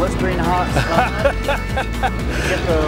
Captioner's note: laughs